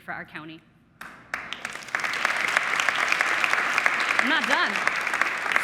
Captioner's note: audience clapping